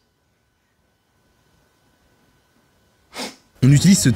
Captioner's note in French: silence; reniflement